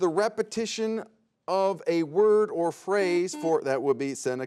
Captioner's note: buzzer beeps